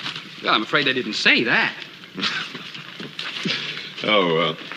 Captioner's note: chuckles